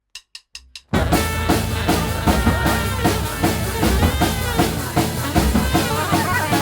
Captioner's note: drumsticks clicking; upbeat jazz music